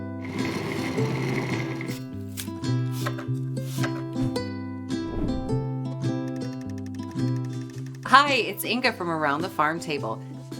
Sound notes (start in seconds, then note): 0.1 gentle music; 2.9 knife chopping